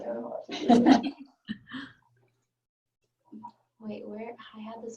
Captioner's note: laughing